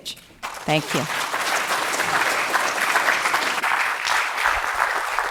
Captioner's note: audience clapping